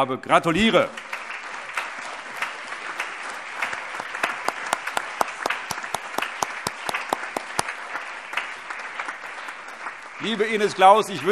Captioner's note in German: Allgemeiner Beifall